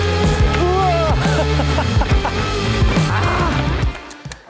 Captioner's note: chuckles